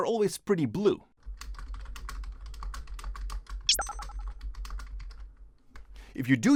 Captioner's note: typing sounds